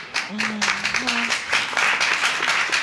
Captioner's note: audience applauding